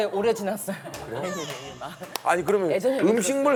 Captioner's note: cry